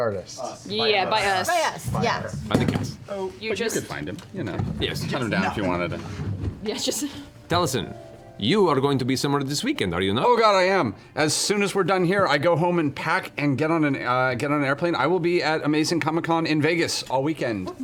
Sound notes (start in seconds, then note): 7.1 laughs; 7.6 in a funny accent